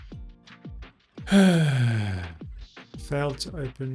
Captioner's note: sighs